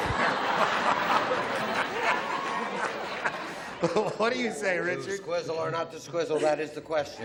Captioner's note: laughter